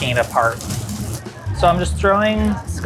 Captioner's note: rice sizzling